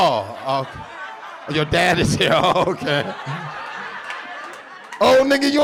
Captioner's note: laughs